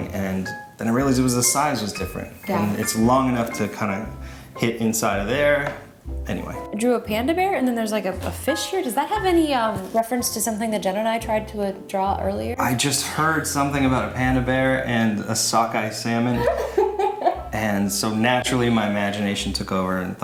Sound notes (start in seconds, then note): 16.3 laughing